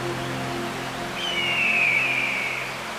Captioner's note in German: Raubvogelruf